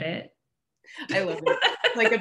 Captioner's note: laughs